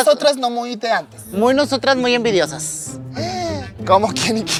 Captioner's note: gay gasp